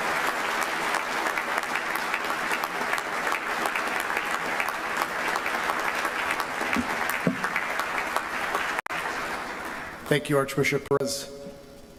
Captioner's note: applause